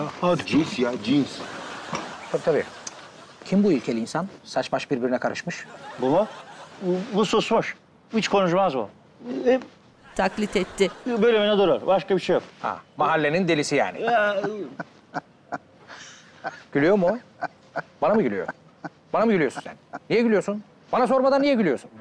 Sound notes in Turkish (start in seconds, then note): 14.4 Gülme sesi